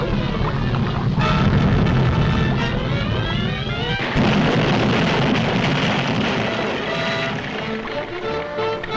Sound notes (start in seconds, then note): 1.6 dramatic music; 1.6 volcano roars